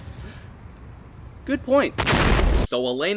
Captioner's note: explosion